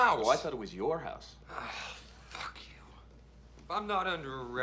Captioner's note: Jason sighs